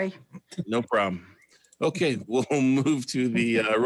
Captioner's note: laughs